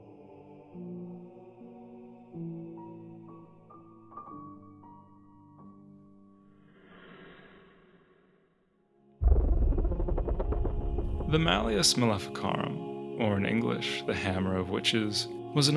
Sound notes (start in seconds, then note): 7.1 slight Woosh